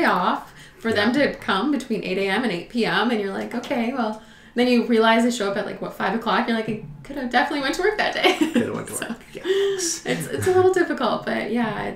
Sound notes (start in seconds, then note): 9.2 laughs